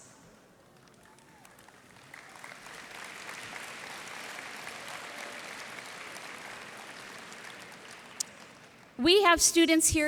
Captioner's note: applause